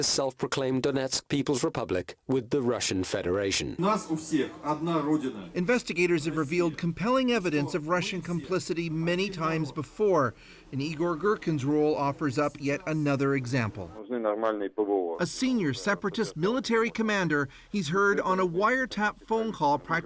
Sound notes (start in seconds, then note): 13.7 speaking foreign language